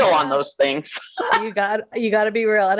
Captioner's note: chuckling